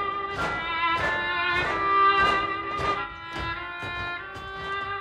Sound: rhythmic stomping

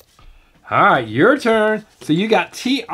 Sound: voiceover

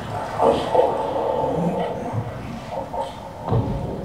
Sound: watery noises and tapping; echoes and draining noises

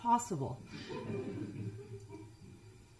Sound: chuckling

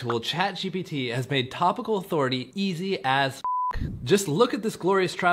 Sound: beep

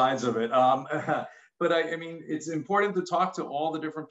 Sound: chuckles

